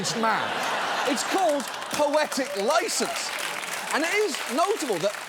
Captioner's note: audience laughs; audience laughs, applauds